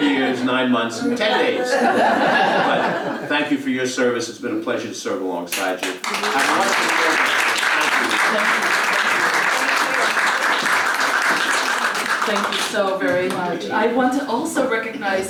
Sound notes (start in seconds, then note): 1.0 laugh; 8.3 applause